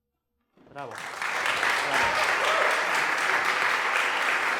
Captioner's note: applause